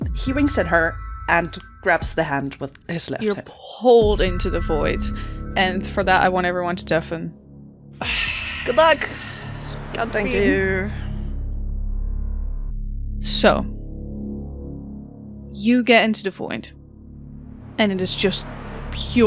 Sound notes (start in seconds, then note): 5.6 resounding, pulsing hum begins